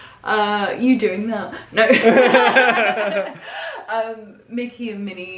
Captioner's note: laughing